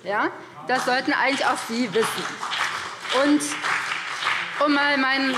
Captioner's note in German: Beifall BÜNDNIS 90/DIE GRÜNEN und CDU